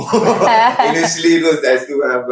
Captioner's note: laughs